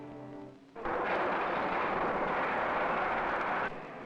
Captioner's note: machine engine running